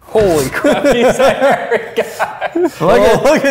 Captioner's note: both laughs